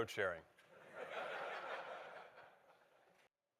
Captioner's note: audience laughter